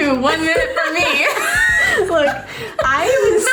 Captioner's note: laughing